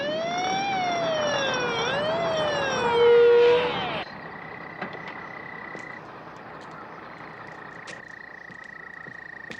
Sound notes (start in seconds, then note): 4.4 siren stops